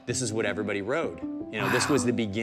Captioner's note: gasp